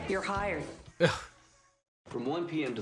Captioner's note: scoffs